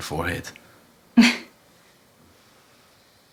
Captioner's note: scoffs